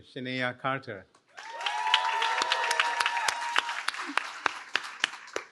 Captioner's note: cheering